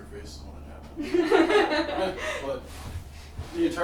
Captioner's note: group laughing